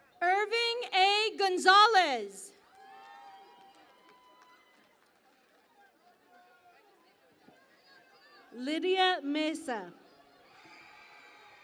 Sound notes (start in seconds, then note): 0.0 cheering and Applause; 2.6 cheering and Applause